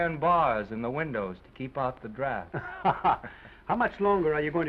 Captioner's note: both chuckling